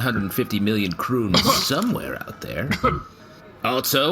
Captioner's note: Shae coughs on her drink